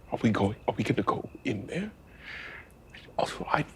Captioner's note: none